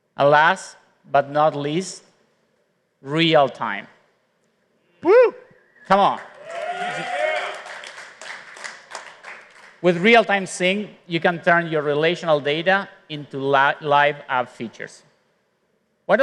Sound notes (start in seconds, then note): 7.6 applause